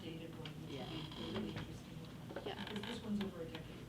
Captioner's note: faintly speaking